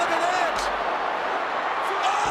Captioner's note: applause